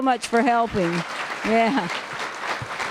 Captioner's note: applause